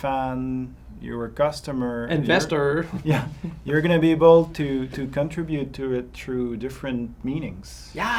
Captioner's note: rire